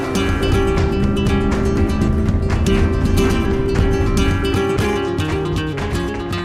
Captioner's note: swoosh; engine revving